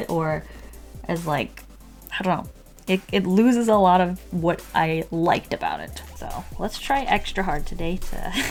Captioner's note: laughs